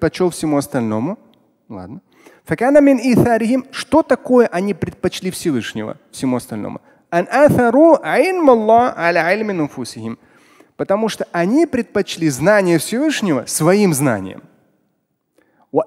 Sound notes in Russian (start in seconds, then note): 1.9 Говорит на арабском; 7.4 Говорит на арабском